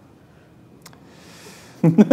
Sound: laughter

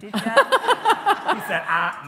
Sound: laughs

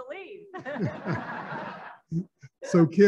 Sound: laughing

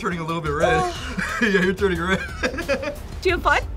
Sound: laughs

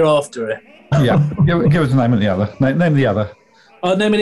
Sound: laughing

